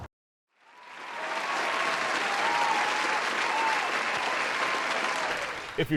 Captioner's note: audience cheering and clapping